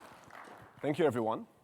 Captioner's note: audience clapping